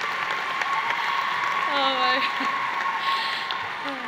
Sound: applause; sighs

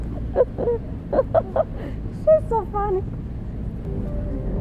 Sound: laughs

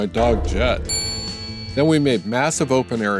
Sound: bell dings

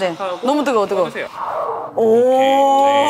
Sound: hiss

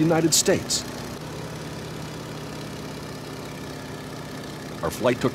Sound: plane engine running

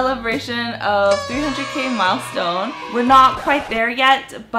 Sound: cheering and party horn blowing; record scratching

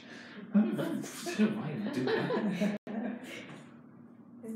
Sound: laughing

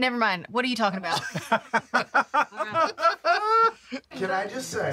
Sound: group laughter

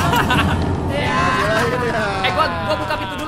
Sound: laugh

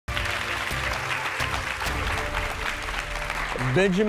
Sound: applause, bright music

